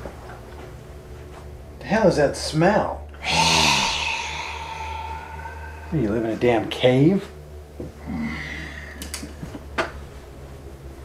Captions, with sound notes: What the hell is that smell? (MURK HISSES) What do you live in a damn cave? (CLICK)